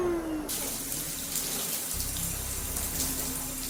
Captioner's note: water splashing